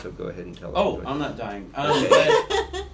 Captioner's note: laughter